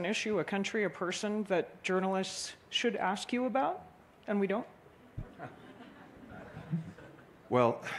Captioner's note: laughter